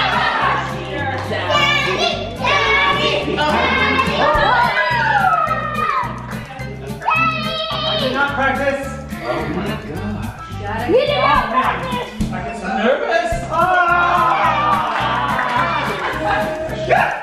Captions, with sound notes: - Daddy, daddy, daddy! (group cheers) - I did not practice. Oh my gosh. - He did not practice. - I'm just nervous. (group yells)